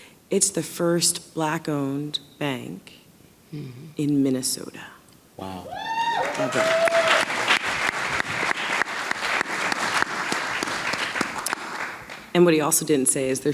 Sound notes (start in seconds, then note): 5.4 audience cheering